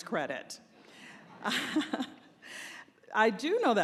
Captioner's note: laughter